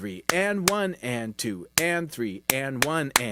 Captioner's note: clapping; clapping